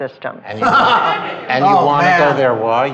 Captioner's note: laughter